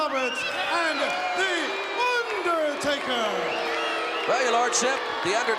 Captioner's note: crowd cheering